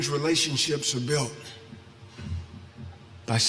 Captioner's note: none